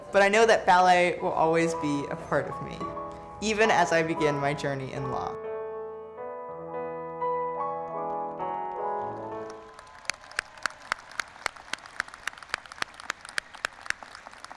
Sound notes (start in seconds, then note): 6.6 ballet music; 8.6 audience applauding